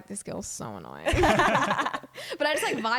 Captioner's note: laughing